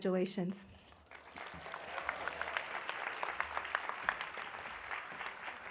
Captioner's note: audience applauding